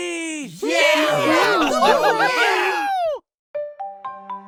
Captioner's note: everyone cheers!